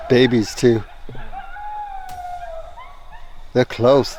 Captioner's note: distant howling